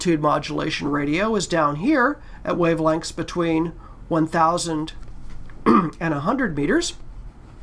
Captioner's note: cough